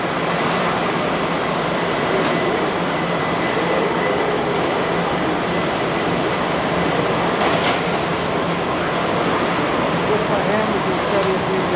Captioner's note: factory noises